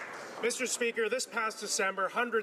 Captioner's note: some Applause